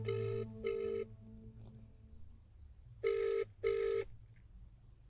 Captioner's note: phone ringing